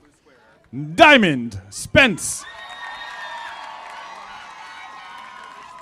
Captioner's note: audience applauding